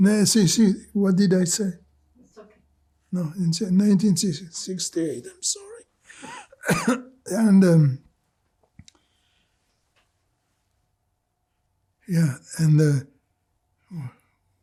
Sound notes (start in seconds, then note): 6.1 coughing